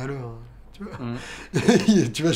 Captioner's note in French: Rires gênés